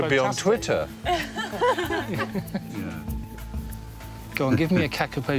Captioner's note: group laughing